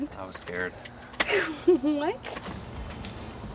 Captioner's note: laughing